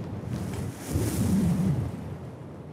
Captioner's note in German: Starkes Windrauschen